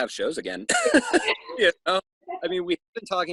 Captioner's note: laughing